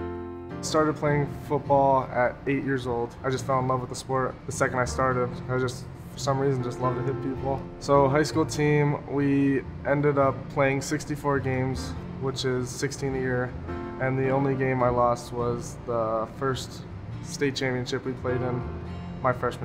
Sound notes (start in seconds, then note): none